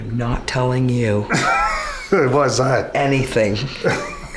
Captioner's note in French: Rires